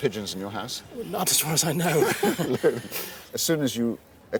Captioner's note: laughs